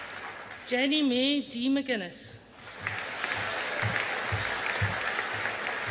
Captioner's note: audience applauding